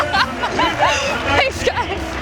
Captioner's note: laughing